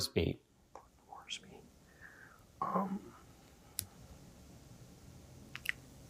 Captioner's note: whispering